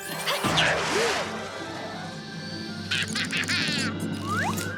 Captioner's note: laughing